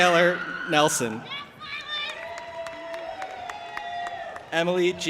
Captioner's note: audience applauding and cheering